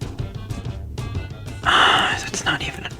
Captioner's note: exhales Oxygen